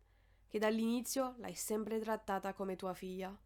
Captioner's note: none